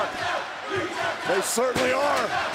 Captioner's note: crowd chanting